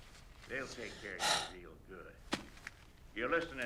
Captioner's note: sighs